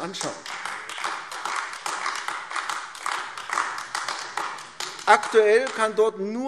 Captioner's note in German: Beifall AfD